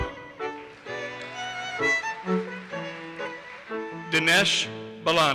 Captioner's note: audience applauses